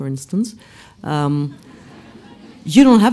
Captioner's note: laughs